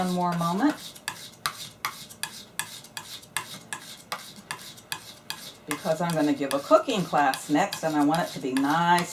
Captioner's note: sound of knife being sharpened